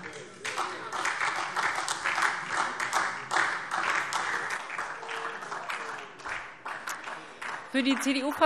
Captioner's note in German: Beifall SPD